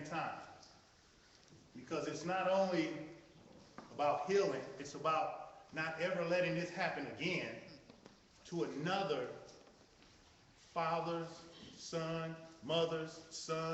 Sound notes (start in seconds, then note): none